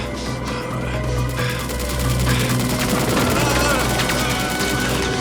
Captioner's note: machine gun fire